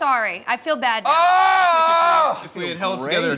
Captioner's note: louder frustrated moan